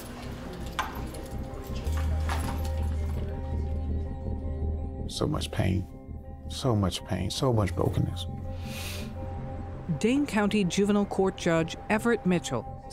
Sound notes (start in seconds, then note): 8.0 sighs